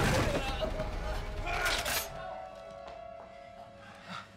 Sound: cocks gun

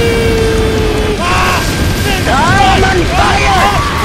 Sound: Retartedlings screaming like bitches

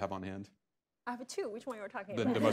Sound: laughter

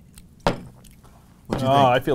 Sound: thump, thump

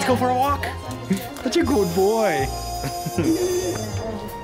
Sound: laughter

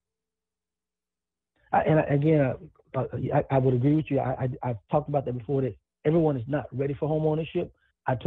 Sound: ~distortion~; ~distortion~

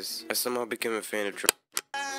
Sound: remote Channel Change

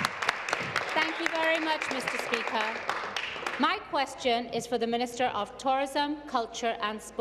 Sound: applause

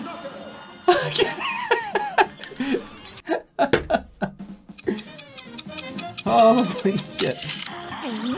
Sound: laughing from relief

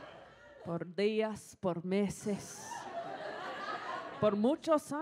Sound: audience laughs; speaks in foreign language

